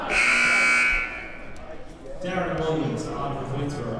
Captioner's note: buzzer blares